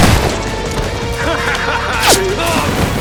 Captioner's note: laugh